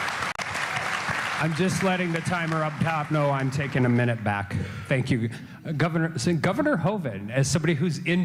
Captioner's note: applause